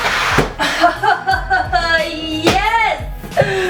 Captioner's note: laughs